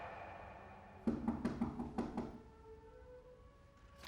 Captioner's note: knocking